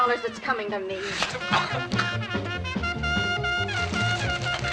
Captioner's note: coughing